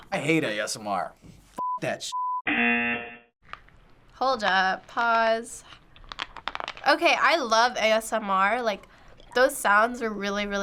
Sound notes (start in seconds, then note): 2.3 buzzer; 6.0 crunching